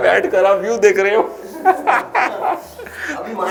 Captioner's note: laughter